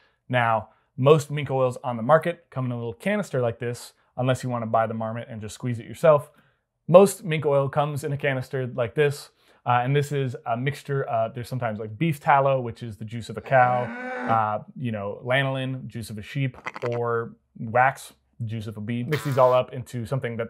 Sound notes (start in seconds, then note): 13.4 cow moos; 16.6 sheep baas; 18.4 bee buzzes